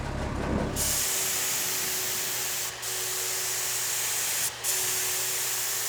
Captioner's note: spray paint hisses